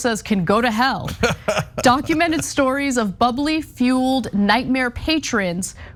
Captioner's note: laugh